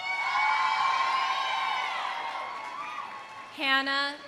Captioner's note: audience cheering; audience applauding